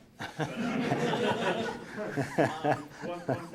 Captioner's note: laughter